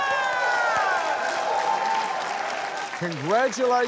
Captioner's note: cheering, applause